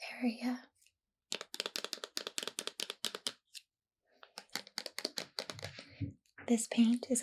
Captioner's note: tapping